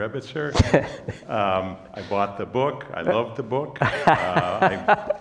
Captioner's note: laugh